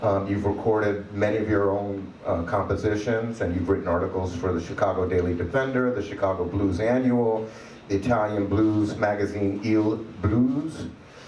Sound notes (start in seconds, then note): none